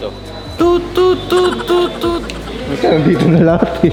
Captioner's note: toot